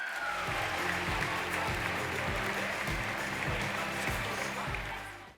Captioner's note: applause